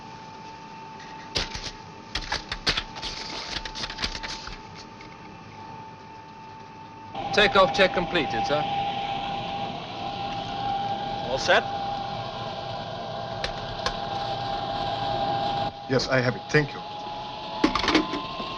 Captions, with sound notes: (paper rustling) - Takeoff check completed, sir. All set? - Yes, I have it, thank you.